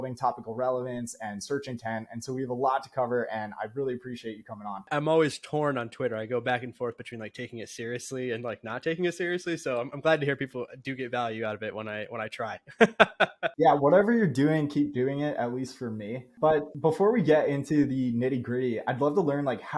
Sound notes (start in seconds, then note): 8.2 speaking